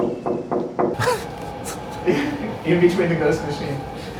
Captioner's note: knocks; laughs